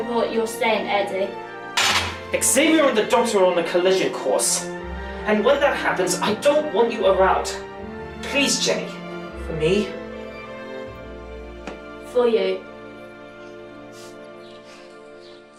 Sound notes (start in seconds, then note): 1.8 putting down cup